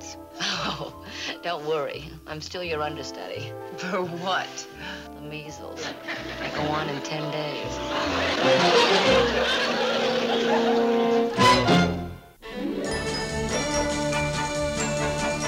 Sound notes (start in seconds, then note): 8.5 laughing; 12.3 theme music